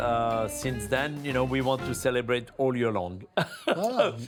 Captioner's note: laughing